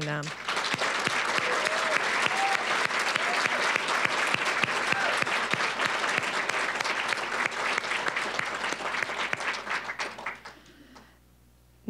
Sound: applause

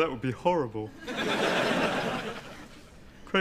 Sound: audience laughs

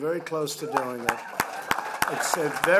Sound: applause

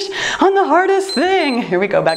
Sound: timer beeps

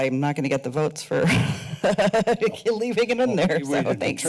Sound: laughs

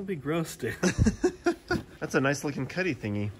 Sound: laughs

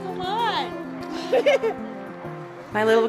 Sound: laughs

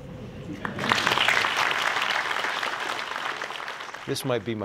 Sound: applause

